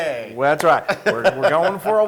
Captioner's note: laugh